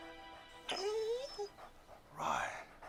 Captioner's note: dog whimpering